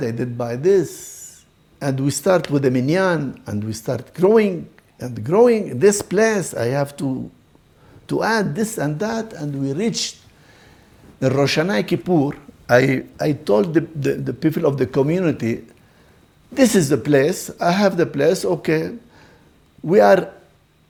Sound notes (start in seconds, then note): 2.8 Hebrew